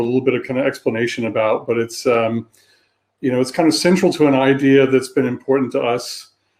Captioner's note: erm; erm